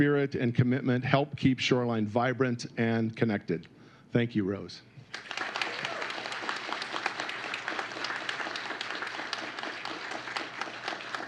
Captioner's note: applause